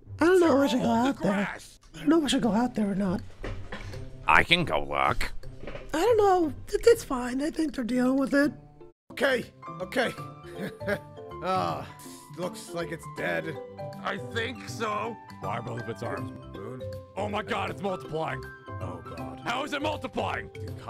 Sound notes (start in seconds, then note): 10.3 laughs & sighs